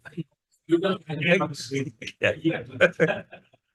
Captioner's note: attendees chattering; laughs